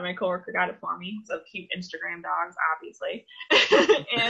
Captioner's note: laughs